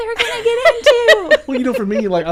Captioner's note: laughing